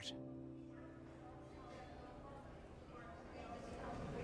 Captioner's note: airport announcements